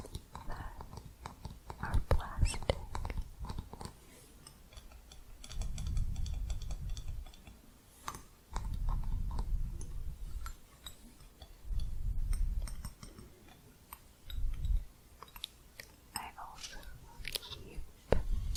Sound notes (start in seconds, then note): 4.3 jingly tapping on hooks